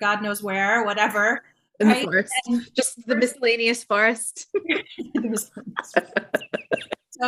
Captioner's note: chuckling